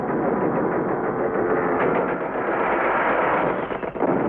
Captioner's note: continuous gunshots